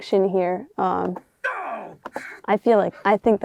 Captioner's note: Troy Baker grunting as Indiana Jones